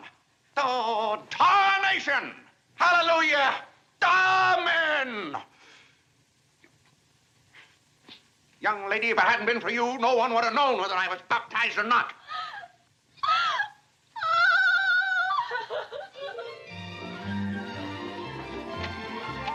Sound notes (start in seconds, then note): 12.2 crying; 16.2 instrumental music